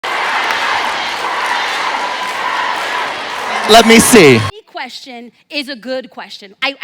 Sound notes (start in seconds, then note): 0.0 audience cheers